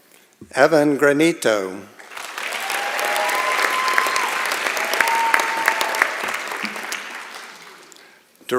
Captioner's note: applause